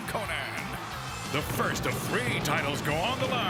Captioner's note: graphics whooshing